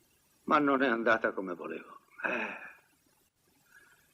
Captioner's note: sighs